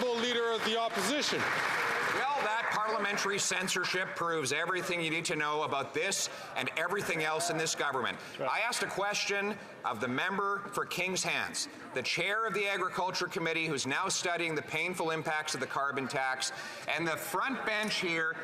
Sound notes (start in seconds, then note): 4.1 some Applause